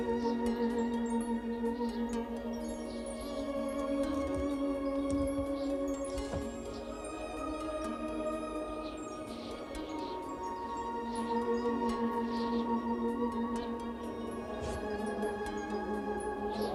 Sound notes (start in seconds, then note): 0.1 wind howling; 3.3 gentle music; 9.6 wind howling; 13.9 gentle music